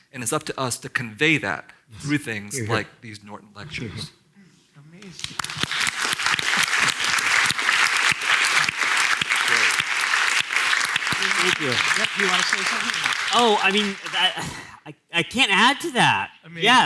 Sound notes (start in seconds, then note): 5.0 applause